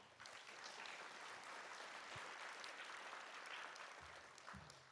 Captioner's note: applause